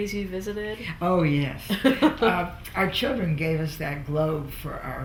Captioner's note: laughs